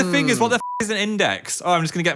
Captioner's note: beep